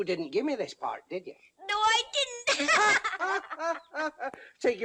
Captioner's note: laughter